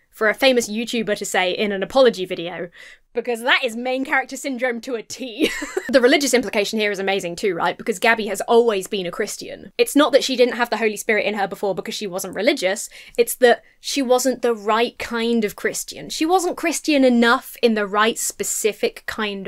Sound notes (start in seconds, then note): 5.3 laughs